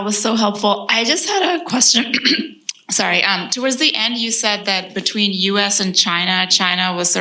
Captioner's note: coughs